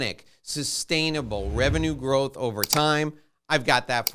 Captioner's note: whooshing; clicking